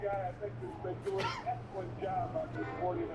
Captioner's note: Ted coughing